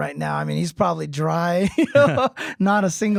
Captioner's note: laughing